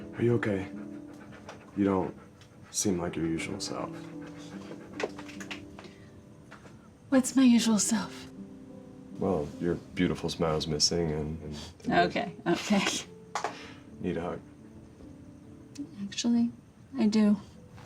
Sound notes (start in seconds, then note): 4.9 dog panting